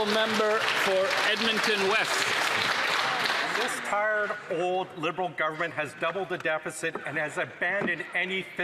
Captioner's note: some Applause